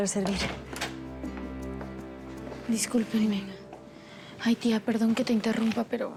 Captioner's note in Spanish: sonido al abrir la puerta